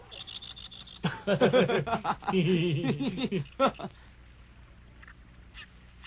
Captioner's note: laughs